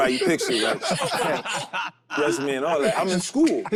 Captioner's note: group laughs